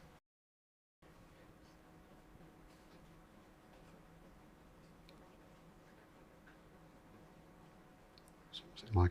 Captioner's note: silence